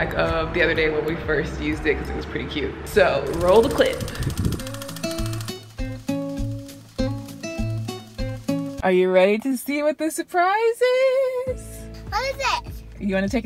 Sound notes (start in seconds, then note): 3.3 shutter flickering; 4.7 soft guitar music